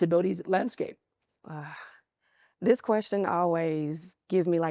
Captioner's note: sighs